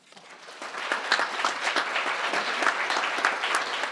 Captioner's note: crowd applauding